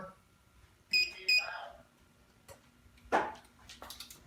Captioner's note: beeping